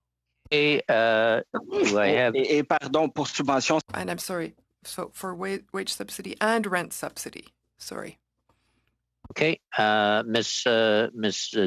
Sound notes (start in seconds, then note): 6.8 speaking French